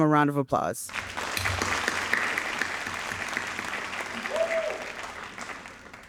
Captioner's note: audience applauding